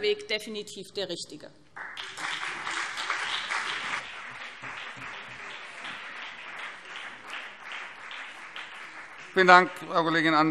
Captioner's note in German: Beifall BÜNDNIS 90/DIE GRÜNEN und CDU